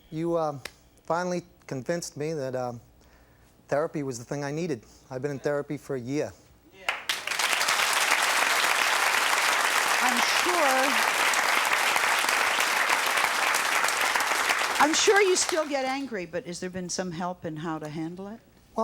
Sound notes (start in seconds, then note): 7.9 audience cheering